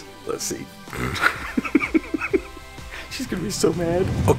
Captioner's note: laughs